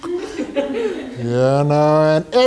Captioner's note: laughing